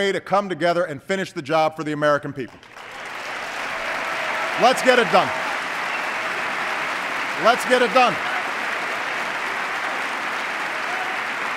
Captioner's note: applause